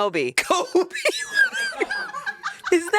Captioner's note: laughs